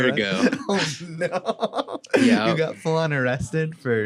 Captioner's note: laughs